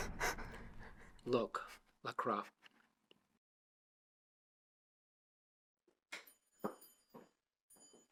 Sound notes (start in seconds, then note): 0.6 crying